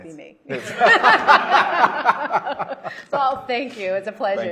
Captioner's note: all laughing